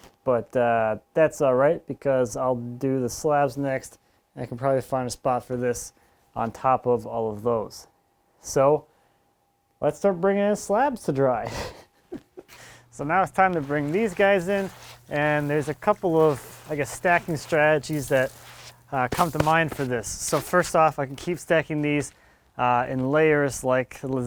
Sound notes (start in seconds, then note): 11.3 laughs